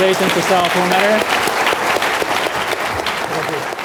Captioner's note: applause